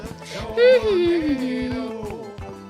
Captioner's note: hums